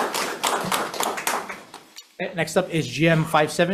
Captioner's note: audience applauds